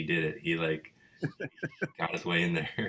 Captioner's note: both laughing